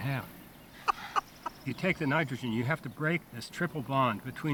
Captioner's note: laughs